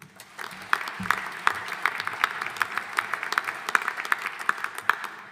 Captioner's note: audience applauding